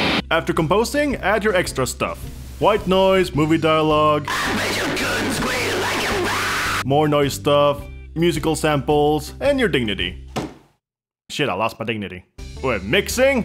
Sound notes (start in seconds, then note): 4.2 loudly screamed, indistinguishable vocals